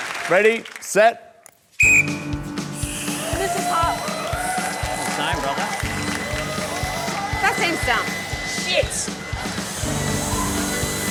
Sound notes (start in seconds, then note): 1.8 blows whistle